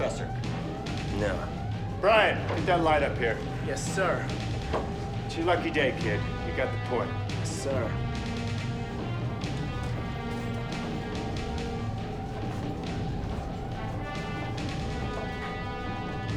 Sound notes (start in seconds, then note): 9.2 alarm blaring